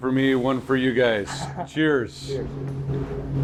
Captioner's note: laughing